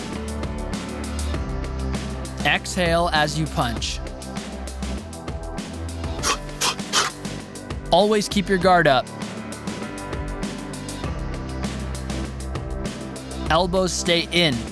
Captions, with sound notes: Exhale as you punch. (sharp exhaling) Always keep your Guard up. Elbows stay in.